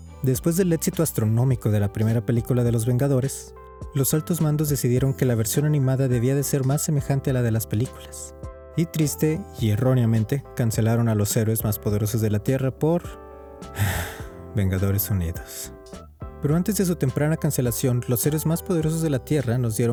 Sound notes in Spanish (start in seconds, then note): 13.7 suspiro